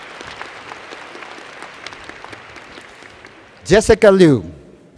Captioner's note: applause